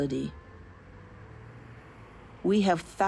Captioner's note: engines humming